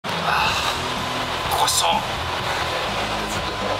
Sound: sigh

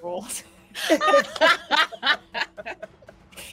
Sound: laughs

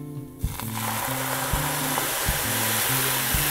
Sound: sizzling

